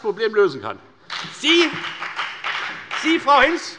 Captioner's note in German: Beifall bei der FDP